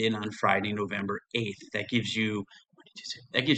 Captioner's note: whispering